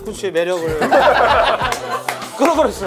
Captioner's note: laughing